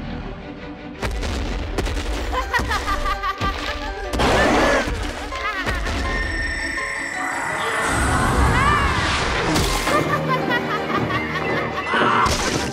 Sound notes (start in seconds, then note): 2.2 Gohan laughing